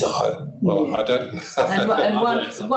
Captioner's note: laughs